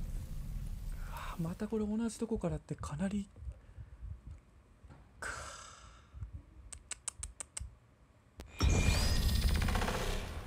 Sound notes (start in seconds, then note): 6.7 clicking his tongue